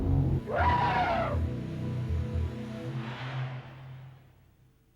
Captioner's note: mammoth calling